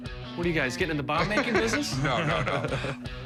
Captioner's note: laughing